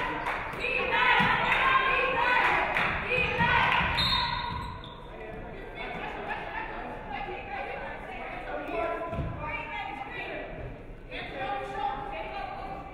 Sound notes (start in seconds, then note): 3.9 referee whistles